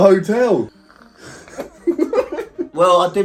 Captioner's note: both laughing